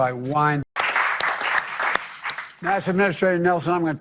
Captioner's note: brief applause